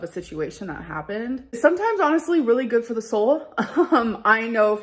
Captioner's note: chuckles